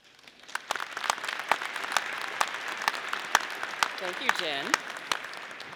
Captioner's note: audience applauding